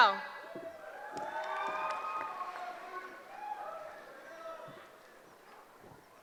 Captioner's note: cheering